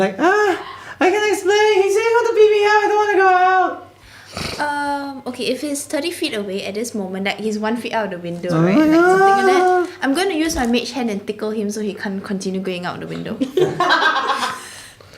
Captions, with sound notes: He’s like...agh...I can explain... He said he wanted to beat me up! I don’t want to go out! Erm...OK, if he’s 30 feet away, At this moment, like he’s 1 foot out the window, right? *fearful whimpering* I’m gonna use my Mage Hand and tickle him So he can’t continue going out the window. *laughter*